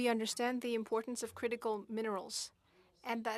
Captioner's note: speaking FRENCH